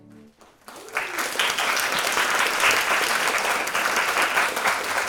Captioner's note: audience clapping